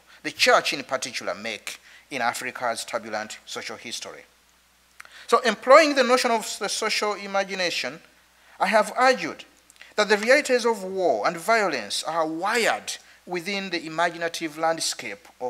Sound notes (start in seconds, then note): none